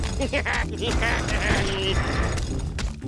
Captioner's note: laughs